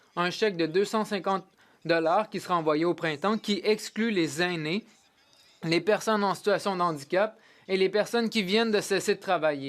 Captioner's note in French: voix de l'interprète